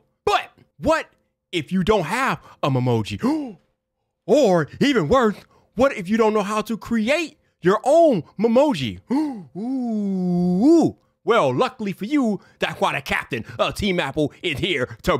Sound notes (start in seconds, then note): 3.2 surprised gasp; 9.0 gasp